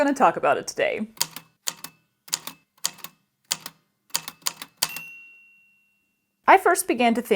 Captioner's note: A typewriter clicks away, then dings